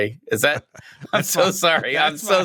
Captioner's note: laughter